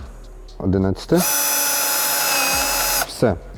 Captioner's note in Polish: dźwięk wkrętarki